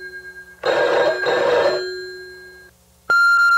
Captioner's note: phone rings; phone bleeps